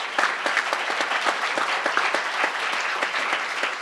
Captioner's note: crowd applauding